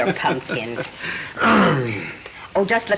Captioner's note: chuckling and groaning